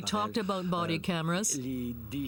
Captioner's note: speaking French